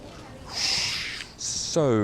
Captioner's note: air whooshes